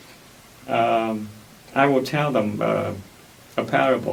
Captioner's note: none